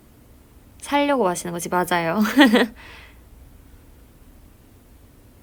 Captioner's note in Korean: 웃음